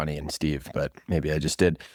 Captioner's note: laughs